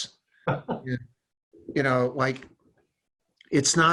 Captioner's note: laughs